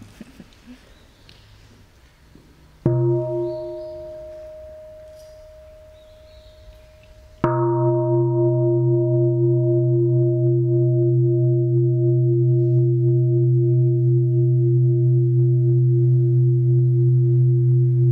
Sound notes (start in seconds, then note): 2.9 sound of the bell